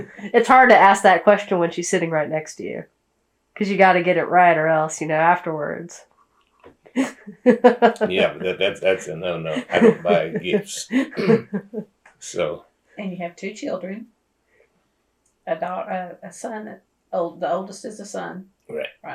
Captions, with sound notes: It’s hard to ask that question when she’s sitting right next to you because you’ve got to get it right or else, you know, afterwards… (Laughs) Yes, but that’s a no-no. I don’t buy gifts. And you have two children. The oldest is a son. Right.